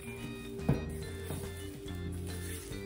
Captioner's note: scrapng noises